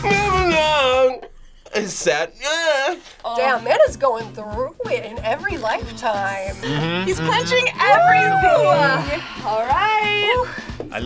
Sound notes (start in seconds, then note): 2.6 whines